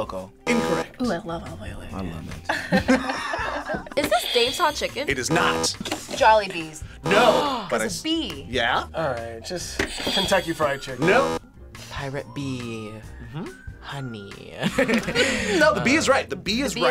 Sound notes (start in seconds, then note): 0.5 buzzer; 0.5 buzzer rings; 2.4 both laugh; 4.4 buzzer rings; 5.2 buzzer; 7.3 gasps; 11.0 buzzer; 11.0 buzzer rings; 14.6 both laugh